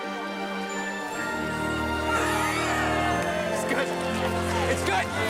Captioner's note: cheering